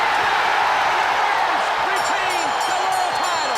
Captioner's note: crowd cheering